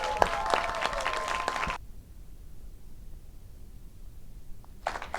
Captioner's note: audience applauds and cheers